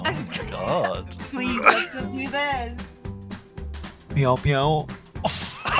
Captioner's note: in a deep voice; everyone laughing